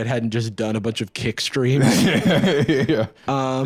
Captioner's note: laughing